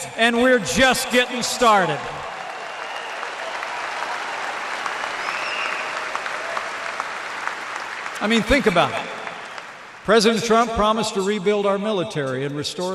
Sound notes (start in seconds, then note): 2.6 applause